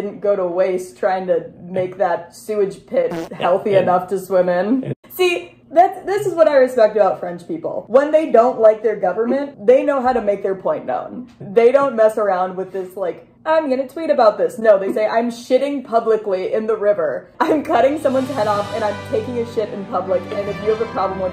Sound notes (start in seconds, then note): 3.1 fart sound; 13.0 mocking voice; 18.0 triumphant music